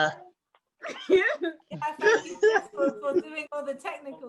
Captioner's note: laughing